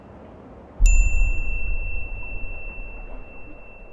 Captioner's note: bell rings